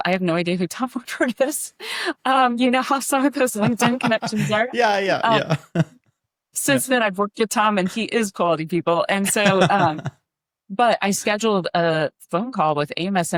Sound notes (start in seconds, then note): 9.2 laughing